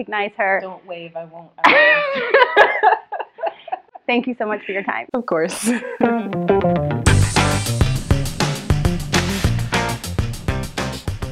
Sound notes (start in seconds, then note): 1.6 laughter; 5.6 laughs